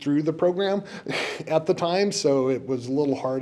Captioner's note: chuckles